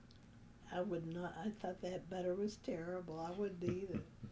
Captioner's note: laughter